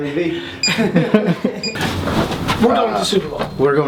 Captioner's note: laughs